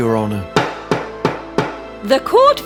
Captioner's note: hammer sounds